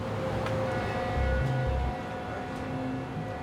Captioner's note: boat horn